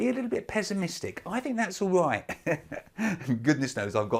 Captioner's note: laughs